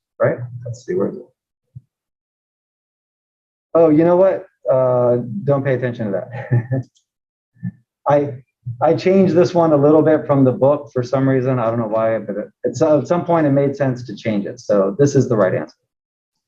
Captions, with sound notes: Right, let's see, where is it? You know what, don't pay attention to that [LAUGH]. I changed this one a little bit from the book for some reason, I don't know why, but at some point it made sense to change it, so this is the right answer.